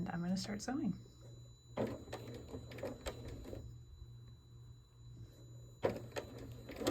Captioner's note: sewing